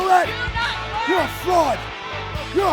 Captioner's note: woman shouting